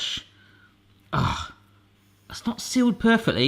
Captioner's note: grunts